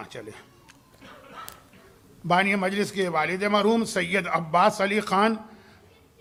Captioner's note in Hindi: गला साफ़ करने की आवाज़